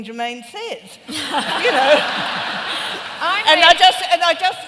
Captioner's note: laughter